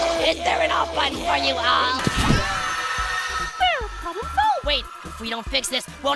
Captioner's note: scream